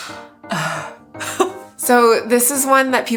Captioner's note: chuckles